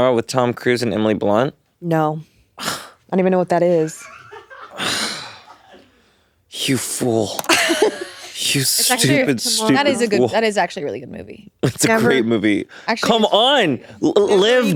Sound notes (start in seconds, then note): 4.4 all laughing